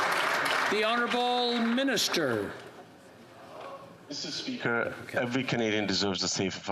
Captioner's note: applause